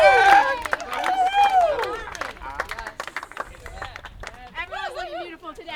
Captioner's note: applause